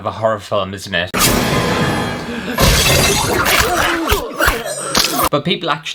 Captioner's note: slicing Sounds